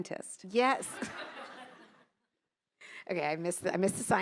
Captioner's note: attendees laughing